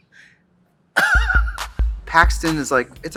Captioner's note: Katya laughs